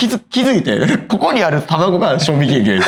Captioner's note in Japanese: 笑い